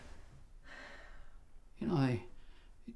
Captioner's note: sighs